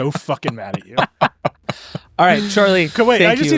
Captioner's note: laughing